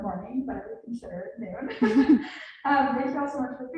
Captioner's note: laughs